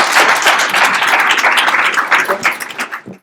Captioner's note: applause